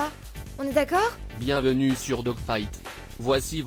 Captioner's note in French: voix robotique en jeu